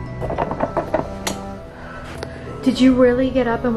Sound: light switch clicks

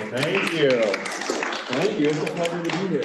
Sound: applause

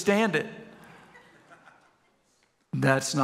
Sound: congregation chuckles

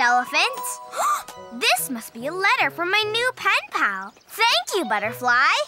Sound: gasps

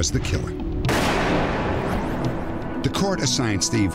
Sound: gun shot firing

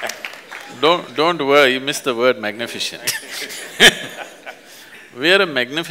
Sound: laughter/Applause; laughs

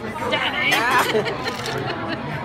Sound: laughing

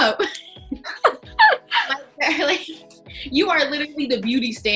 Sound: all laughing

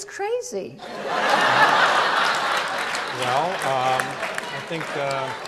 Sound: audience laughs

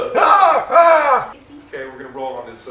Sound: shouts

